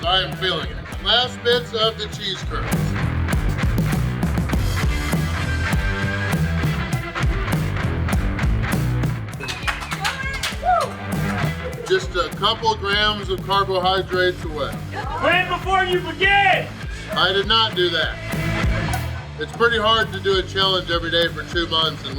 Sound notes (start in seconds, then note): 3.6 upbeat music; 9.3 audience clapping